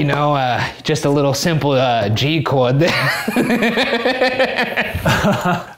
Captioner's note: laughs